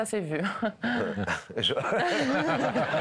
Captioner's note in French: rires